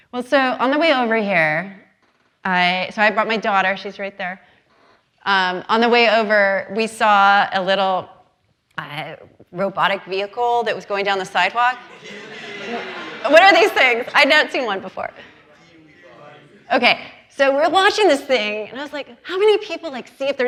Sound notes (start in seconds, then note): 16.0 faintly speaking